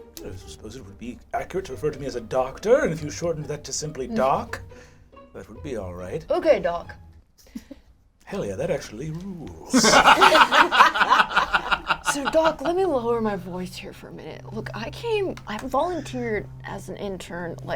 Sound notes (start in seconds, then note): 9.7 all laugh